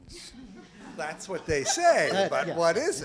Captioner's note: voiceover